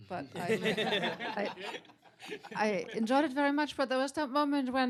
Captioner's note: laughter